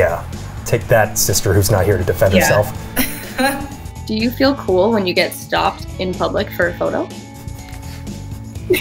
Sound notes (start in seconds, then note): 2.9 woman laughs